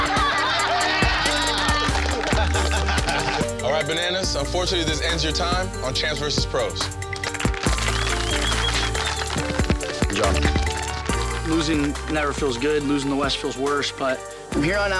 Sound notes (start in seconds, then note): 0.0 audience laugh loudly; 7.6 audience cheering